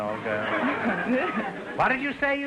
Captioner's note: audience laughter